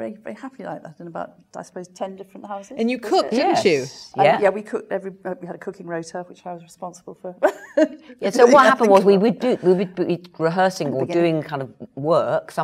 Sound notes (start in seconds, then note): 8.3 laughs